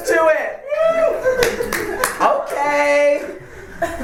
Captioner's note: audience cheers